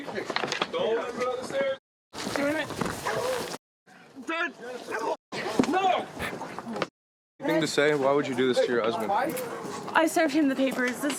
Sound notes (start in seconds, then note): 4.3 grunting